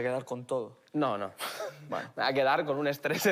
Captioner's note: laughs